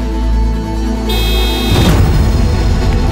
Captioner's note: Honks